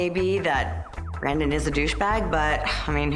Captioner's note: sigh